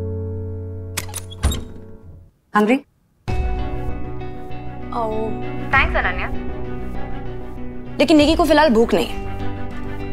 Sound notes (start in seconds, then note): 0.9 door opens